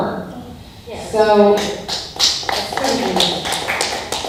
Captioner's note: applause